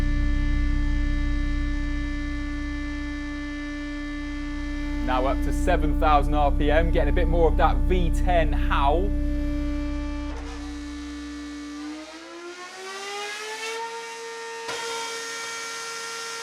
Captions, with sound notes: Now up to 7,000rpm. Getting a bit more of that V10 howl. (REVVING INTENSIFIES FURTHER)